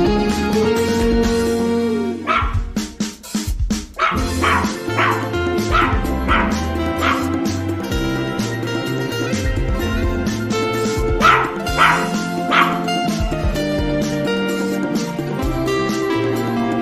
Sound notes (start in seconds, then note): none